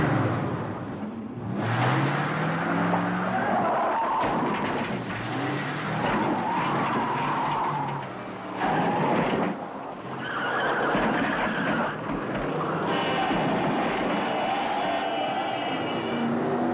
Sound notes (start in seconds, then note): 2.5 tires screeching; 6.7 sign thudding